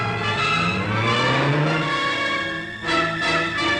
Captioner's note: engine roaring